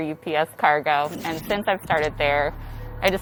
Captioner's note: mechanical noises